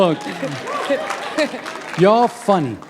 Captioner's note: applause